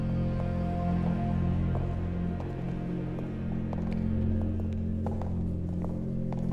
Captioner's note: ominous music playing; footsteps